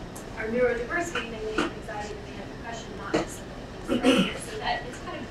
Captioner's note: speaking away from mic